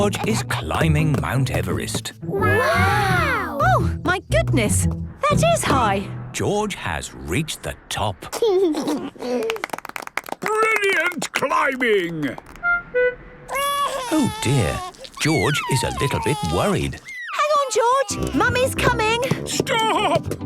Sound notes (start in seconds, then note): 0.0 giggles; 8.7 George giggles; 9.4 clapping; 13.5 crying